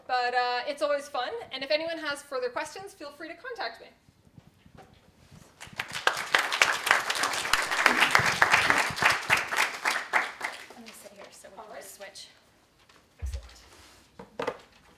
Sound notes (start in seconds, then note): 5.5 applause